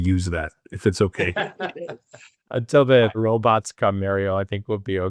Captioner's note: laughs